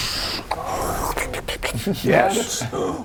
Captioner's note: sluuurppp...luplupluplup